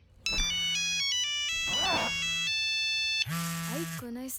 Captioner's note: phone rings